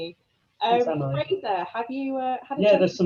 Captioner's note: voice muffling